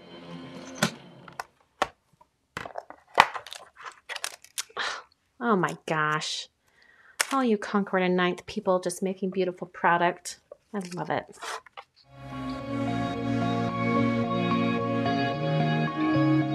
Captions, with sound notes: (gasping) Oh my gosh, all you Concord & 9th people just making beautiful product. I love it. (gentle music)